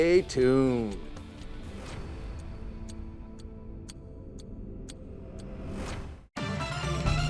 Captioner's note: upbeat music; clock ticking; upbeat music